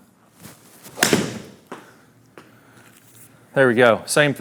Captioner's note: ball smacking